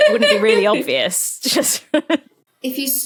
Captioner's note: laughs